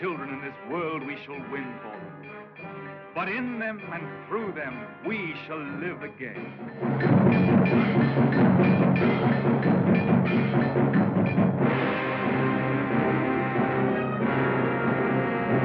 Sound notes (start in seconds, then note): 6.4 machinery Clanking